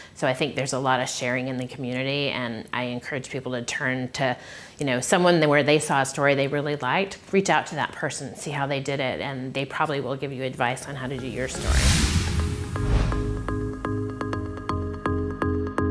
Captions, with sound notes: So I think there's a lot of sharing in the community and I encourage people to turn to, you know, someone that when they saw a story they really liked, reach out to that person and see how they did it. And they probably will give you advice on how to do your story. (graphic whooshing) (soft music)